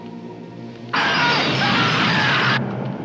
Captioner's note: man screaming